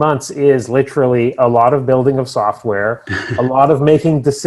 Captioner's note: chuckles